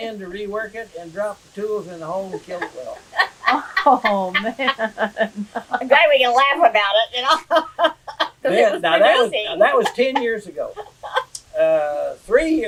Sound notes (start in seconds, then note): 2.2 laughter; 7.0 laughs